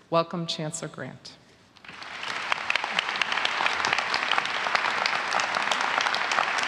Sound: applause

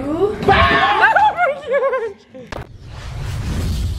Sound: screaming

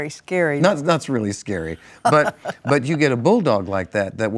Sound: laughs

